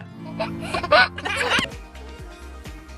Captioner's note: baby laughs; upbeat music